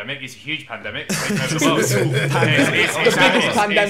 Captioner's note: laughing